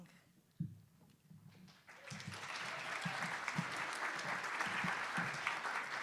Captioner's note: attendees applauding